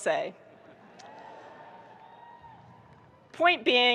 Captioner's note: audience chuckling and cheering